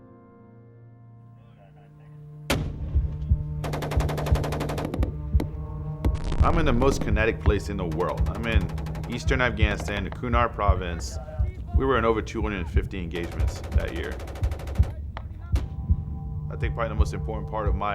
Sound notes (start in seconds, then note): 3.6 gun firing; 5.9 dramatic music; 13.1 gun firing